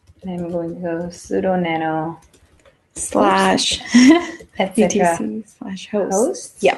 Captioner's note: laugh